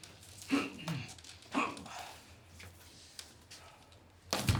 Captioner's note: nazi grunting